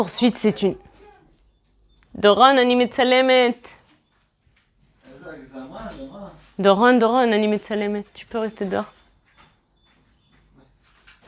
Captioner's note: in Hebrew